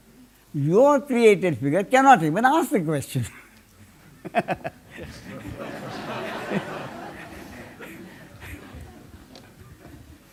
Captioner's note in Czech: smích